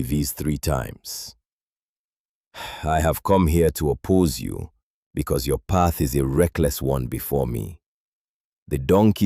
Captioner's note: sighs